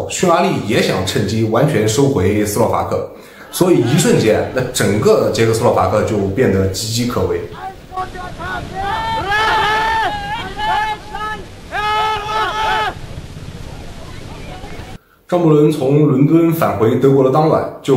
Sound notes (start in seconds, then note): 7.8 shouting